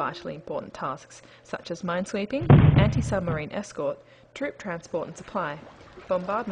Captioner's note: boom